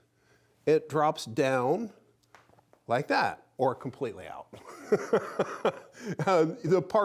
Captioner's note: laughs